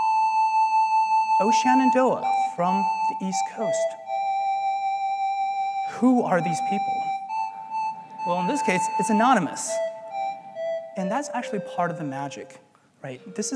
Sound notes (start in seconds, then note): 7.1 laugh